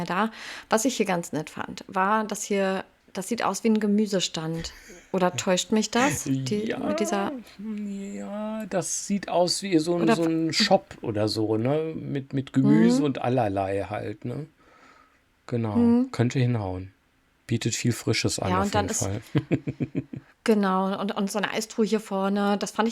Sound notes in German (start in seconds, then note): 19.0 gelächter